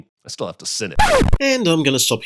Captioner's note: record scratch